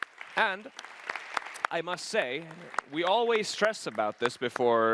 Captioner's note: applause